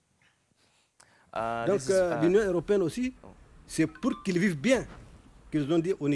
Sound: speaks in a foreign language

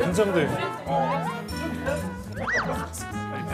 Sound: gulp

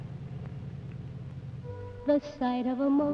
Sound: engine purrs

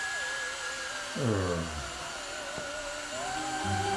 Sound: exasperated sigh

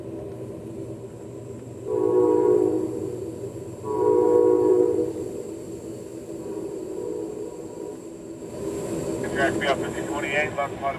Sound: wind blowing

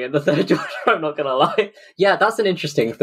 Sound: laughing

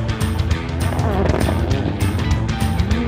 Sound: car engine, rock music plays

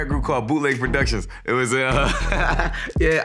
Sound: laughing

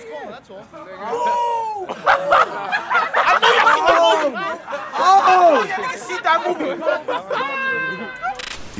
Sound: laughing

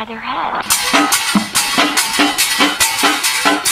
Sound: banging

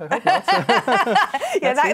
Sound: laughter

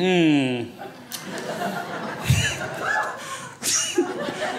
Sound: crowd laughs

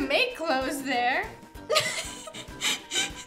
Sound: laughs

